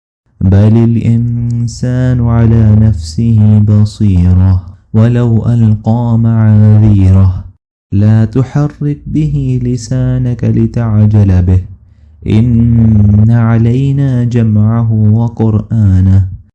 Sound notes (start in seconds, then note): 10.0 reciting